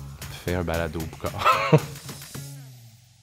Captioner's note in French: rire